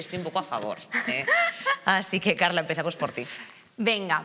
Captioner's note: laughter